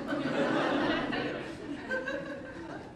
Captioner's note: laughs